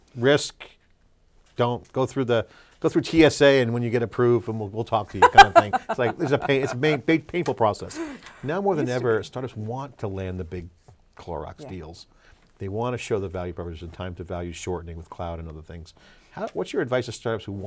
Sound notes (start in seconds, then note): 5.2 guffaws